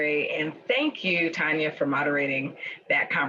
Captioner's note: none